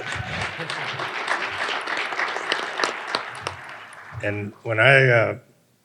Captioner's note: audience applauding